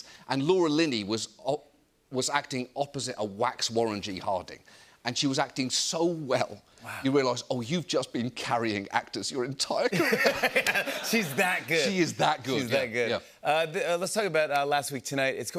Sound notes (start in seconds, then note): 9.8 laughter